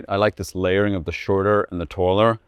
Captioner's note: none